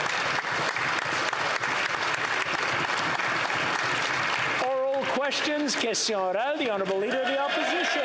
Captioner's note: some Applause